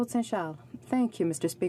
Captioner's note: speaking French